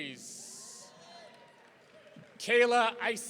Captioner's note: audience cheering